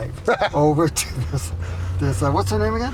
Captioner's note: laughs